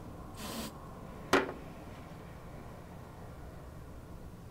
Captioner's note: sprays hairspray